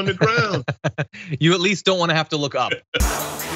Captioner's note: laugh